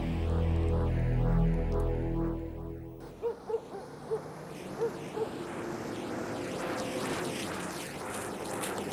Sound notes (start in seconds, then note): 0.0 suspenseful music; 3.1 dog barking